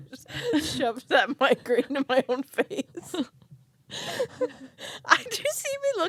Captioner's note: laugh